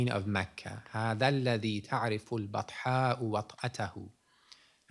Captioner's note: non-english speech